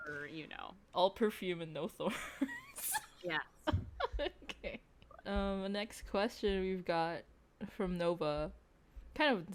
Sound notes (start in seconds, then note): 3.6 giggles; 3.6 still giggling